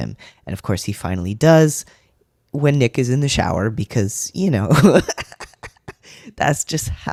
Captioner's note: laughter